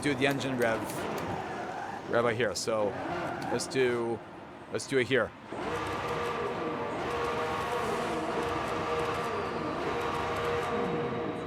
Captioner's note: engine revving